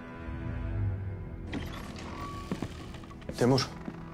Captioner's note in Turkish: Kapı sesi